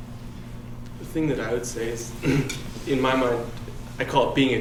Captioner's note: throat clearing